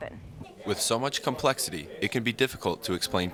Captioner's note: voiceover